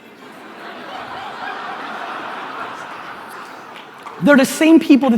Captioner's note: audience laughter